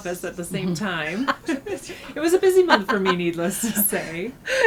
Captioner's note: laughter